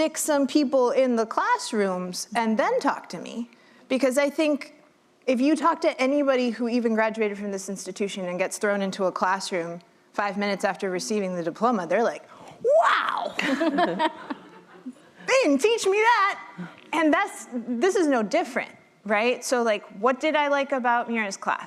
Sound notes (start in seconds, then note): 13.3 laughter